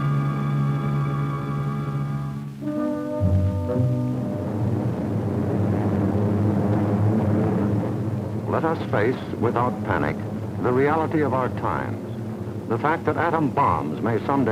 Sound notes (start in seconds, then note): 4.7 aircraft low buzzing